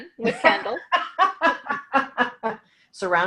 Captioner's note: laughing